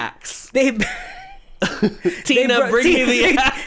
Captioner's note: laughs